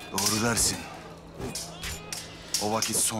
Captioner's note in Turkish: Kılıç sesleri